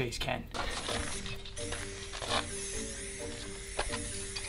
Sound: rattle can spraying

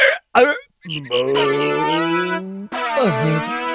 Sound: burping

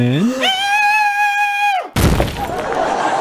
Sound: scream

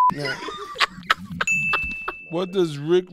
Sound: laughing

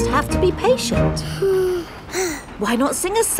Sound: both sigh

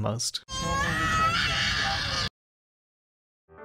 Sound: screaming baby

